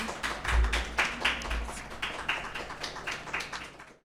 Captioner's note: people clapping